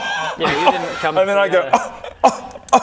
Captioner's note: scoff